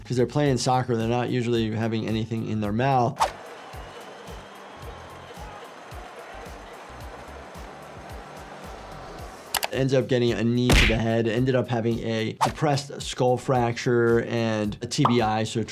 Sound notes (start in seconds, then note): 2.6 upbeat music; 3.2 crowd cheers